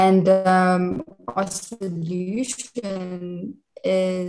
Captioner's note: audio distorts